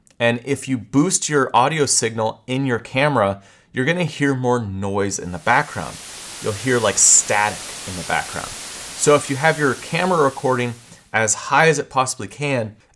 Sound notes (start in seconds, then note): 5.3 static buzzing